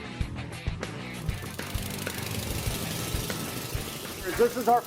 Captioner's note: tools rattling